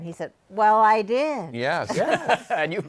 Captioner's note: laughing